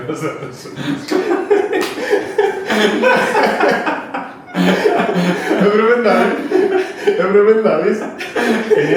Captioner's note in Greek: γέλια